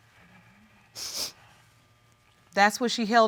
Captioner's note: sniffling